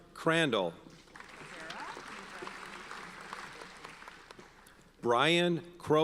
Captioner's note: audience applauds